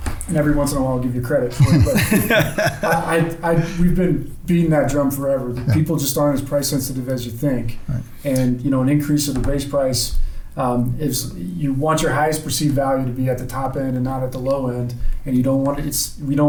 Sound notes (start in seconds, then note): 1.5 laughing